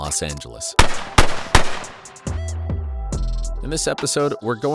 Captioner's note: gun shots blaring